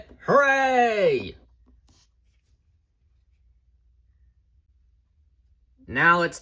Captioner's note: silence